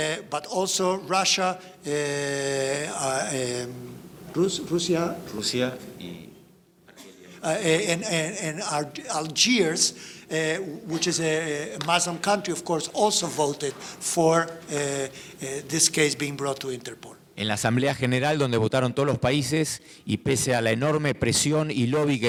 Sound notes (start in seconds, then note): 4.3 both speaking in foreign language; 17.5 speaking in foreign language